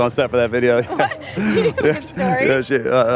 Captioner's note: laughs